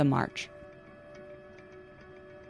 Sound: shouting

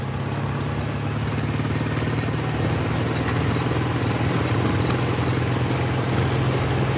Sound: motorcycle running

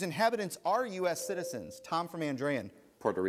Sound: ding

